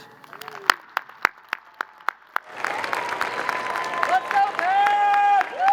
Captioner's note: crowd cheering and applauding